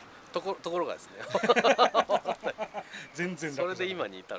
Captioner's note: laughs